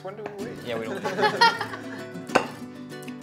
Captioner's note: laughs